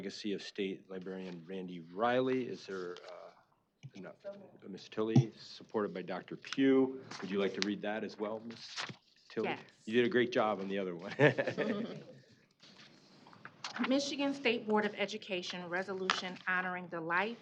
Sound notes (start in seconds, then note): 11.0 laughing